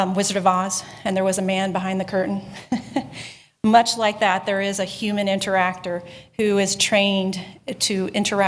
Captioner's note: chuckling